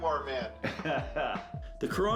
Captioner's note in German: lacht